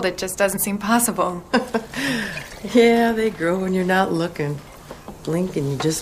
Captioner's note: chuckles